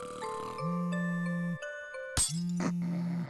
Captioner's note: Marina's phone vibrates